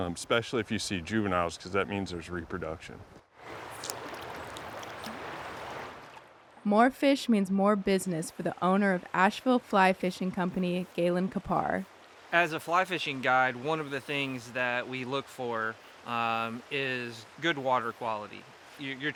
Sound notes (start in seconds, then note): 3.4 water burbling